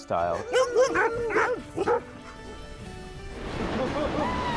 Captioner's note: dogs barking